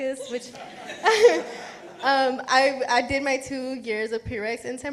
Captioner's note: chuckles